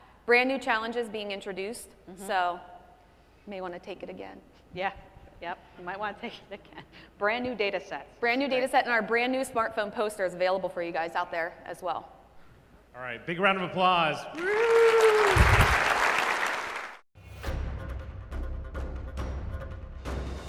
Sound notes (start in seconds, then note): 14.3 audience applauding; 17.4 electronic music